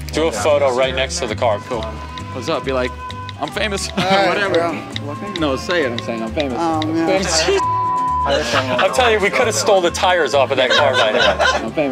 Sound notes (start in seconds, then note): 7.4 beep